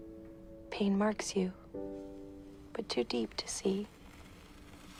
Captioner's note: voiceover